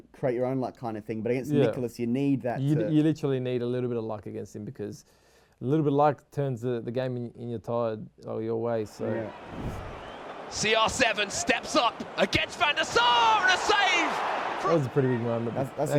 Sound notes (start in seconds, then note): 14.2 fans cheering